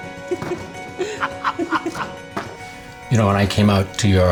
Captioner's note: giggling